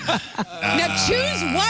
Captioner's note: laughing